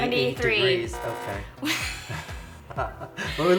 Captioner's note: buzzer honks; both laugh